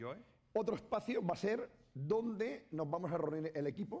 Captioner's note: speaking spanish